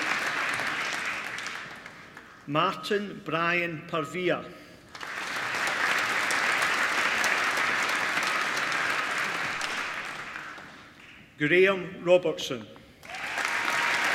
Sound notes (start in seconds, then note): 4.8 applause; 13.0 applause